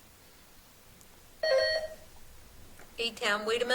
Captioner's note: buzzer beeps